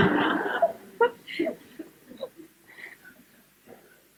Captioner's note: laughter